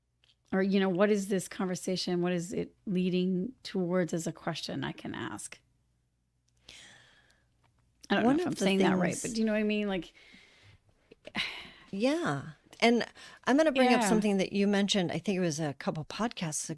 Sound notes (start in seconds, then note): 9.8 sigh